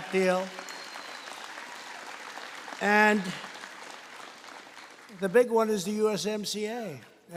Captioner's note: applause